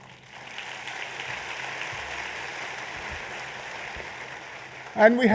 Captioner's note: applause